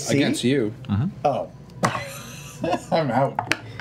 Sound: laughs

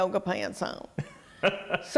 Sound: laughter

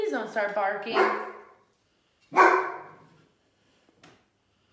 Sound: Molly barking

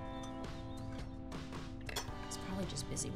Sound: clank

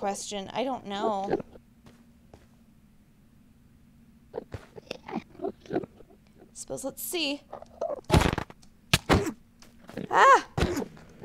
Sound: combat and damage sounds

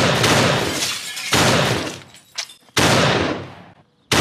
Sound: car crash; broken glass

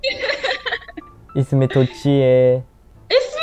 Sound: Farsi

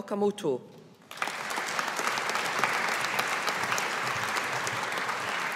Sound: audience applauding

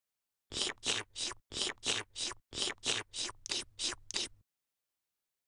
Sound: jess drinking sound

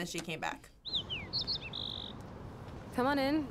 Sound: birds chirping

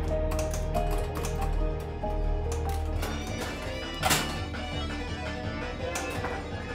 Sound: gentle upbeat music; pinball machine clattering and beeping

